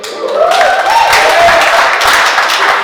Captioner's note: applause